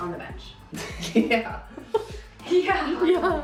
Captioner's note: laughing